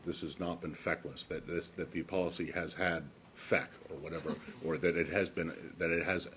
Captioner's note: laughter